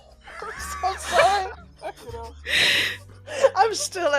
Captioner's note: laughing; laughs